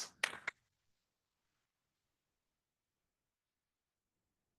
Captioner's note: hands clapping